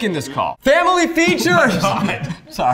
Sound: yelling; laughing

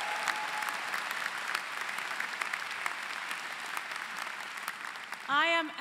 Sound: applause

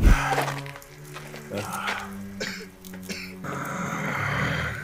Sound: heavy breathing

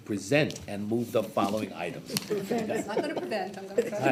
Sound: scattered chuckling rings

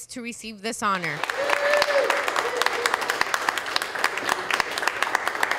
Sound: cheering and clapping

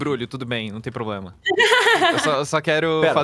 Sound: laughs

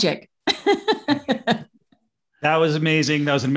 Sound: laughs

